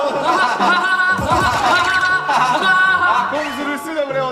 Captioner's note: hahahaha